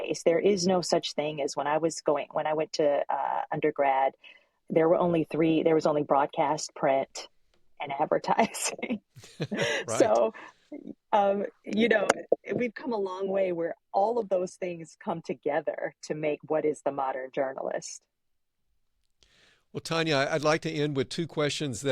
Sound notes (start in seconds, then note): 9.2 laughs